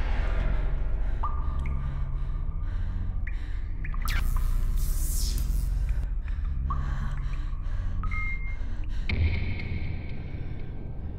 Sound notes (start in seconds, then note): 8.5 beep